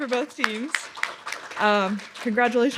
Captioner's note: applause